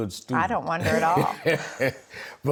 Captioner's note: laughs